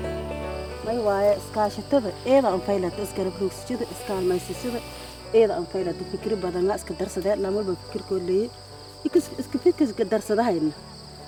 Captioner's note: non-english speech